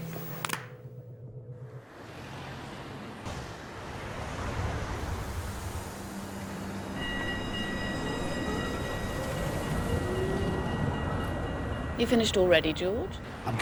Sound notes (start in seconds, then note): 0.3 phone clapping; 1.6 traffic humming; 6.9 trolley bell dinging